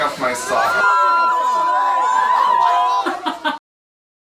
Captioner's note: people screaming